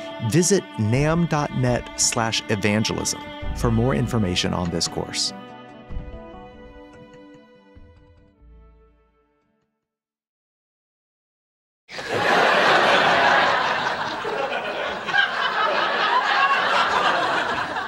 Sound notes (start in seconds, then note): 6.0 mysterious music; 11.9 audience laughing